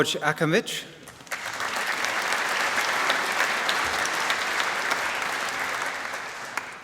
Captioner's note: applause